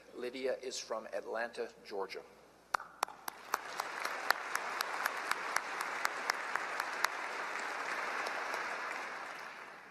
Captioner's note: applause